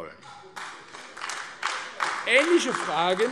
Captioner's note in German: Beifall AfD